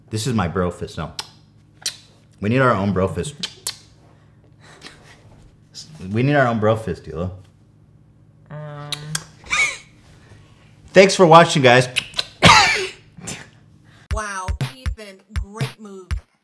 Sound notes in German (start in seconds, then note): 8.8 Kuss Kuss lautes ausatmen; 11.9 Kuss Kuss Hust